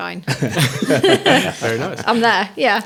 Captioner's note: laughing